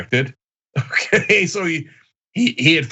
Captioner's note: laugh